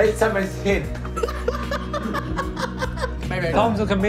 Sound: laughs

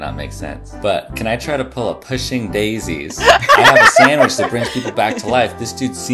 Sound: laughter

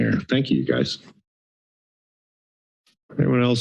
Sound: silence

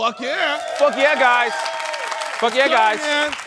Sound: applause

